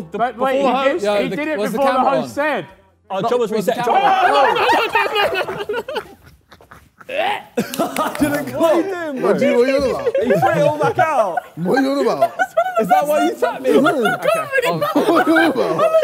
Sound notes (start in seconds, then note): 3.8 Sidemen yell; 12.2 Sidemen laugh hysterically